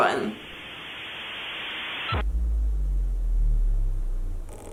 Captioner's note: computer hissing